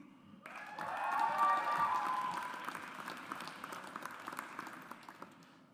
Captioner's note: audience applauds